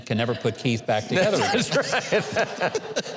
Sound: laughing

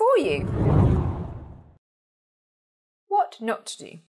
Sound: hard whooshing

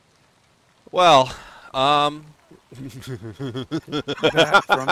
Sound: laughter

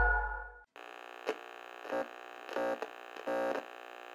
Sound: static buzzing

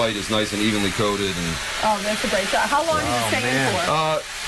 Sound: sizzling loudly

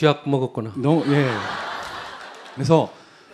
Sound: audience Laughter

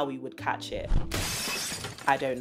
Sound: sound of glass smashing

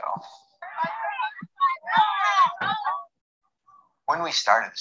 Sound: group chatter

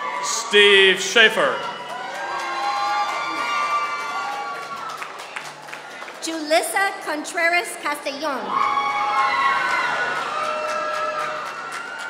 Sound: applause; applause

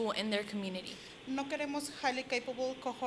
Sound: Spanish language

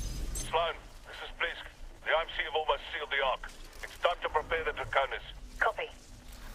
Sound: radio

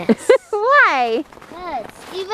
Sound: laughing

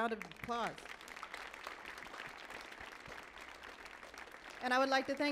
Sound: audience applauding

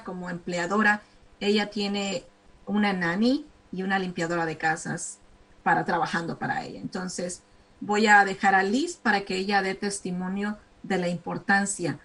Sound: speaking spanish

